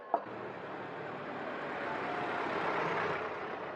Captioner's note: engine rumbling